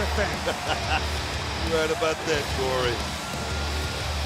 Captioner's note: laugh